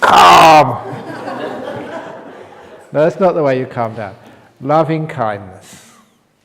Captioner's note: laughter